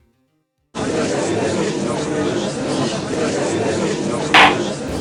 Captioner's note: gallery chattering; gavel slam!